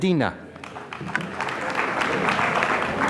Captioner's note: applause